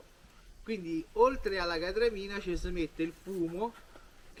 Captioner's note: speaking in dialect